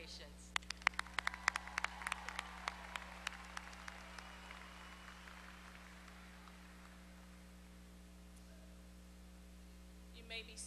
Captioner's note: applause